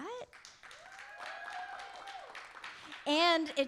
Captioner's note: audience applauding; audience cheering